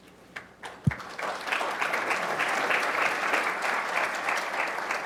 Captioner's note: audience applauding